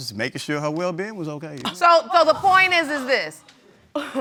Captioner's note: gasps; scoffs